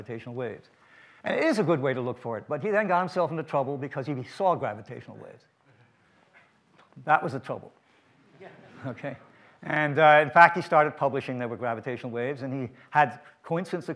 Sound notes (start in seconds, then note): 7.6 audience laughter